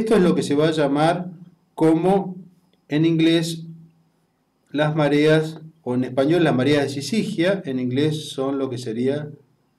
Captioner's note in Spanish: en español